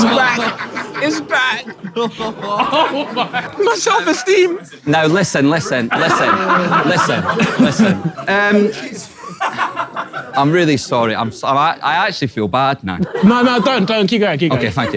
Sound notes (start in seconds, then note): 5.5 Ethan laughs loudly